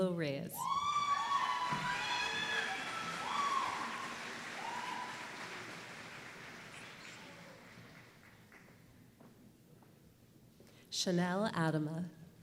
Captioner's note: applause